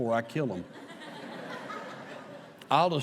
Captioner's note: laughter